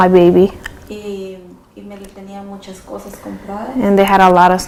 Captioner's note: speaking spanish